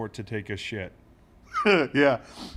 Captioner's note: laugh